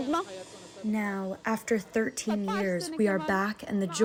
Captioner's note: through translator